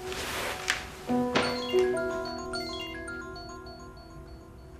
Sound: mobile ringing

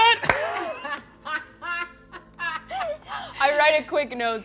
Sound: laughing

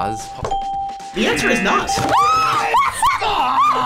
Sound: ding; screams

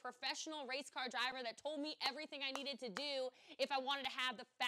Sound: clapping

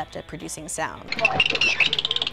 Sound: dolphin clicking

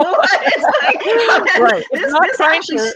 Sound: both laugh

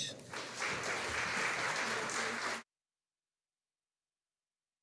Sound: audience applauding

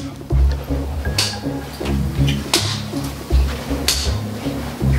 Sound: ruler slamming

